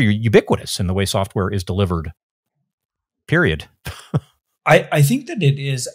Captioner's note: laughs